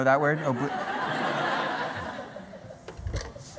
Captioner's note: laughter